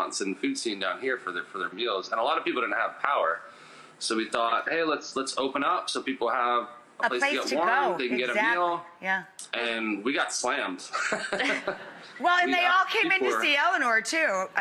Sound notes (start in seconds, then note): 10.9 laughing